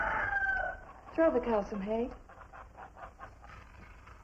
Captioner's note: rooster Crows